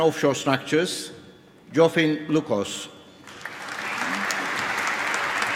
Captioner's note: applause